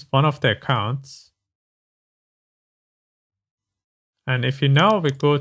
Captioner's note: typing